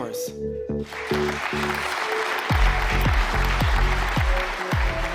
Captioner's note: people clapping; upbeat music